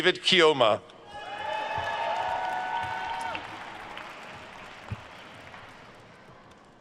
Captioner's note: attendees cheering and applauding